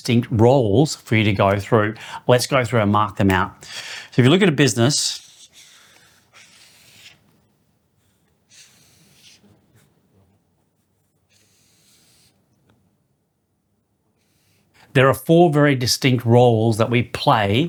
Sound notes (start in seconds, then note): 5.2 breathing